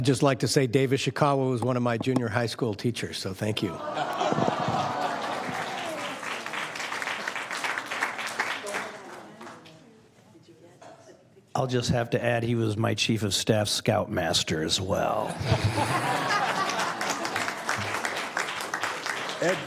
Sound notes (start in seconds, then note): 4.1 applause; 16.2 applause